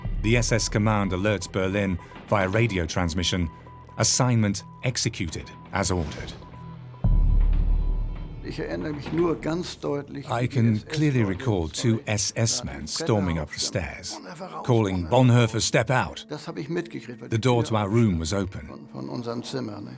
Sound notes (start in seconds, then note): 6.4 radio beeps; 8.4 speaks in foreign language